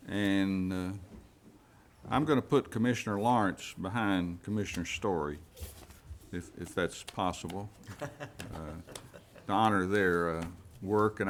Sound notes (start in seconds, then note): 7.8 man chuckling